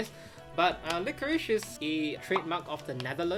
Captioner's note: graphic pops